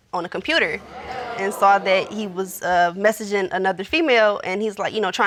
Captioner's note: audience exclaims